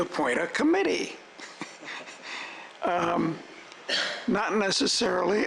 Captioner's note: scattered laughter